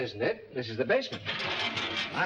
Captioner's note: gate clatters